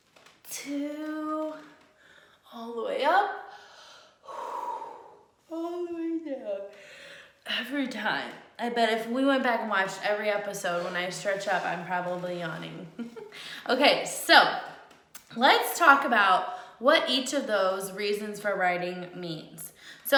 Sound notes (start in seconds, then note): 7.0 yawns; 13.2 laughs